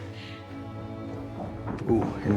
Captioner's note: melancholy music; shoes clacking